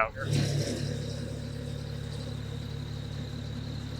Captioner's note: machine rumbling